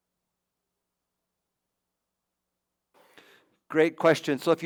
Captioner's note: silence